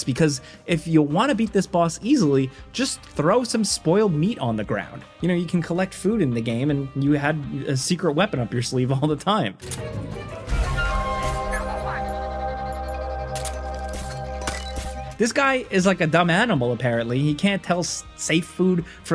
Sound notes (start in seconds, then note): 8.8 laughing; 9.6 dramatic music; 13.9 gun firing; 14.4 throw dinging